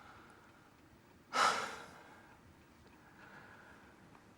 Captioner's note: sighs